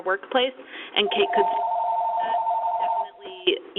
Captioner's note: ringing phone drowns out dialog